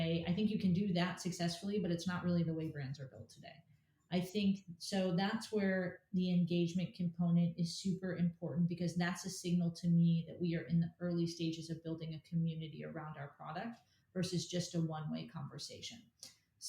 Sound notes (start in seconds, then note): none